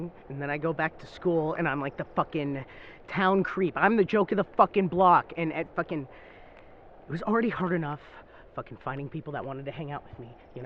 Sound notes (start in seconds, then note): none